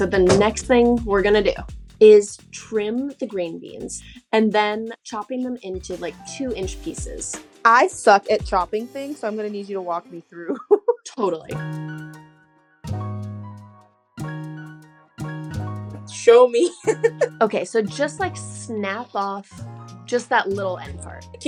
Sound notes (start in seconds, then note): 10.6 laughs; 11.9 bright upbeat music; 16.6 laughs